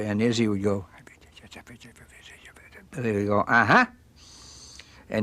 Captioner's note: whispering